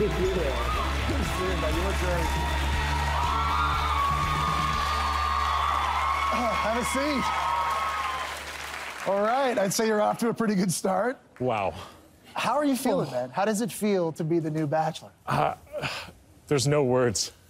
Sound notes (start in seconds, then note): 4.9 cheering